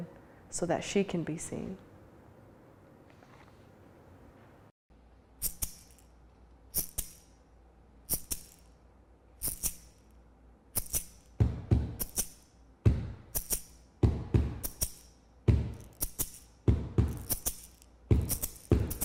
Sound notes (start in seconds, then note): 5.4 rattling; 12.1 percussive beating